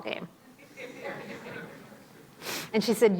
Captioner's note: audience laughing